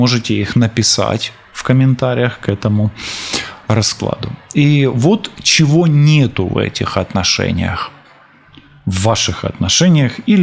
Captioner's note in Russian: фыркает